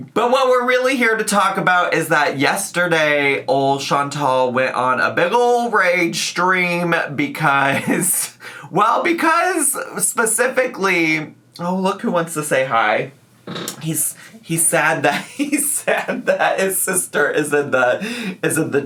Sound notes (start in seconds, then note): 7.7 laughs